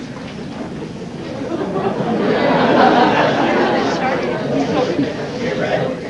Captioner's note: laughter